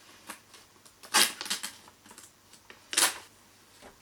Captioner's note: page tears from journal